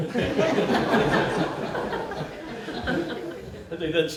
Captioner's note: laughter